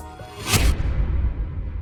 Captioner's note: sound FX